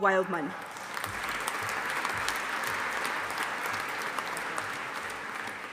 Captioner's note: audience applauding